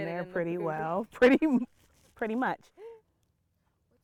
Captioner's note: laughing